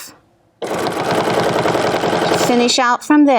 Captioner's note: machine whirring